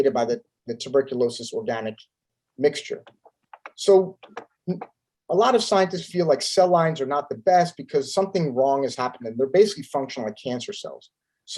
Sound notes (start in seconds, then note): 4.1 keyboard clanking